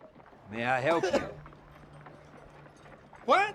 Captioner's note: Clyde coughing